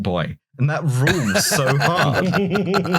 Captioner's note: laughter